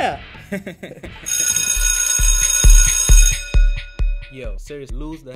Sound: laughter; bell ringing

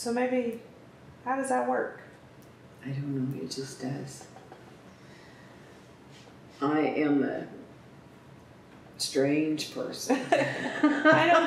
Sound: laughter

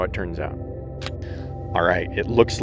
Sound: camera snapping

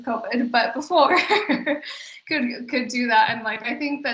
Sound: laughs

